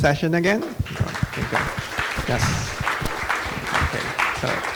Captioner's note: audience applauding